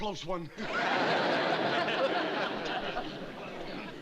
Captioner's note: laughs